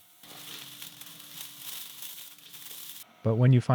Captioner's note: scraps scraping